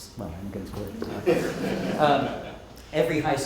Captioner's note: group laughing